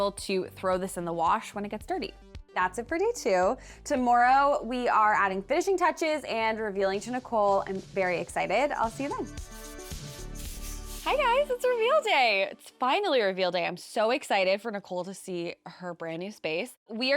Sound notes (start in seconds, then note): 9.2 paint brushing; 9.5 soft music